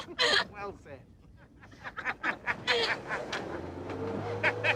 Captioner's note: Hullabaloos laugh